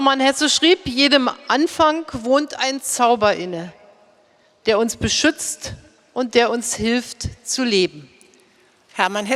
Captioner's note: speaking in German